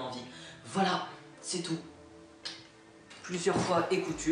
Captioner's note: kiss